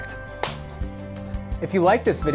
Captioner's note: loud clapping